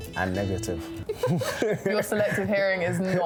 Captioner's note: laughing